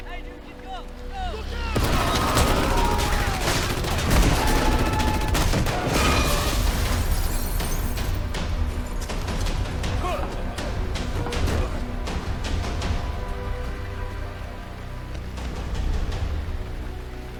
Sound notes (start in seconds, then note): 1.7 guns blasting; 8.3 dramatic music; 10.0 Kyle grunting; 11.5 dramatic music